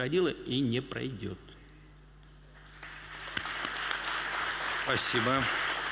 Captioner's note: applause